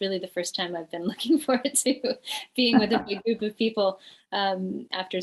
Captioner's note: laughs